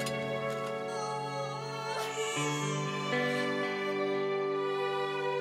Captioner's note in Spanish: llanto de bebé